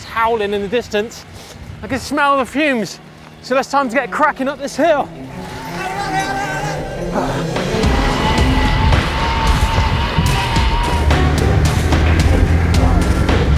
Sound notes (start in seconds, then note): 6.5 bikers yelling; 9.0 dramatic music